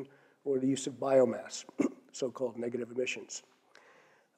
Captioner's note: cough